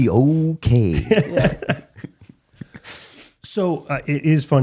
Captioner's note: laughing